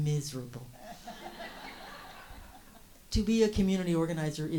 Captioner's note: host and audience laugh